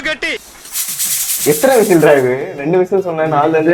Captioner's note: cooker whistling weirdly